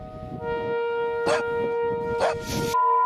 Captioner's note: dog barks